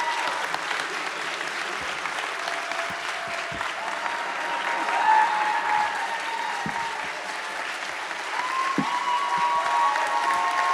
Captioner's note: continued cheering